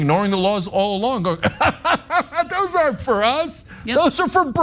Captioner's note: laugh